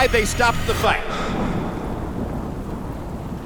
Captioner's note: panting; thunder rumbles